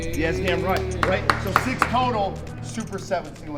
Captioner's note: clapping